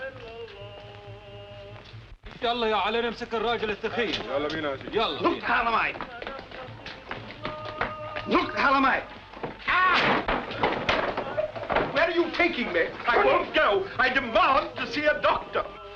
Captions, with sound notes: [Arabic] Where are you taking me? I won't go. I demand to see a doctor.